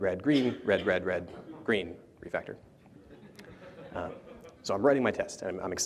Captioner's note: laughter